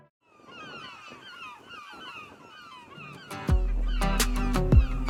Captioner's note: birds squawking; upbeat music